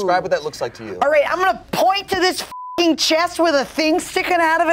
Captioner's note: beep